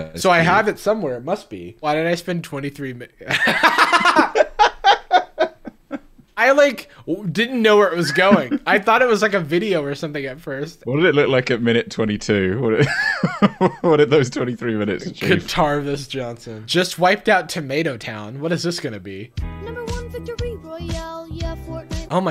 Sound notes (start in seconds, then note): 3.3 heavy laugh; 13.0 chuckle; 19.4 child singing